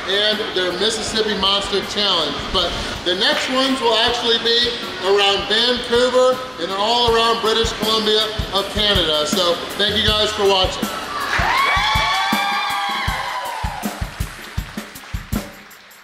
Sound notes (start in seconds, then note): 10.7 crowd cheers